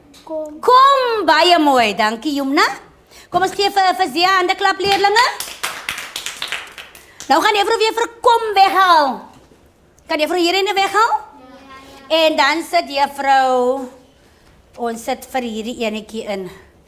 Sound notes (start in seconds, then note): 5.3 clapping